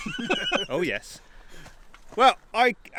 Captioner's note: laughing